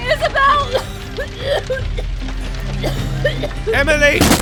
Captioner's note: Emily starts coughing and rasping